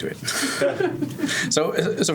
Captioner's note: laughter